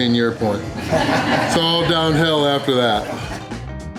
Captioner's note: crowd laughter